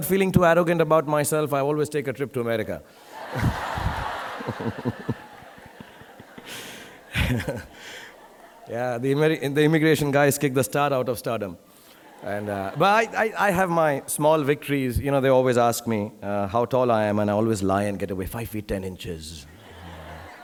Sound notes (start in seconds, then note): 3.0 audience laughing; 3.1 laughs; 12.0 audience laughing